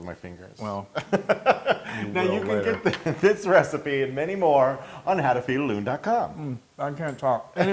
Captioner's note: laugh